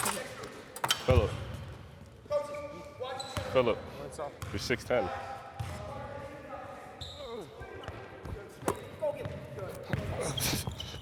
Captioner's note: on-court chatter